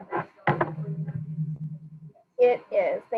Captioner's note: speaking faintly